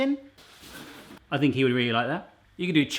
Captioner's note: none